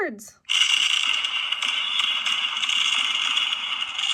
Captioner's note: fireworks bang